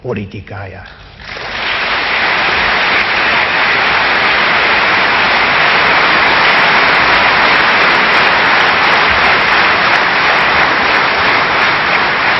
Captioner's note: applause